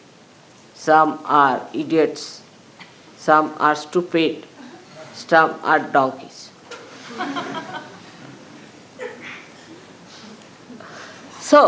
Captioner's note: laughter